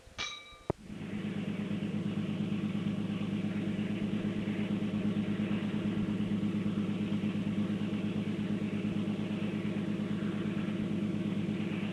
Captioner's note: bell Sound; sound of train moving